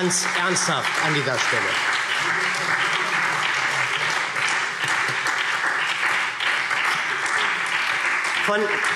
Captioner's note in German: Anhaltender Beifall SPD - Beifall Freie Demokraten